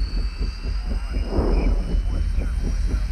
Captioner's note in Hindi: रेडियो पर दूर चैट